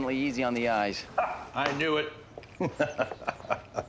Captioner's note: laughs